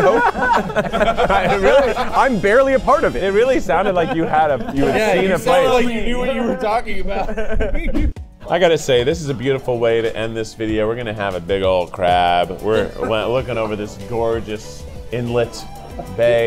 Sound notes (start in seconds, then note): 0.1 all laughing; 7.9 laughing